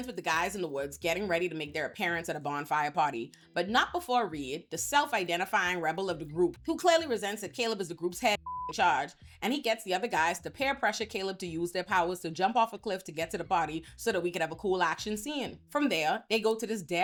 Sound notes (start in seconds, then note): 8.4 beep